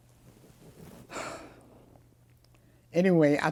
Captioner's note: sighs